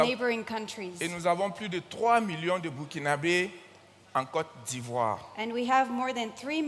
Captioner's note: continues in French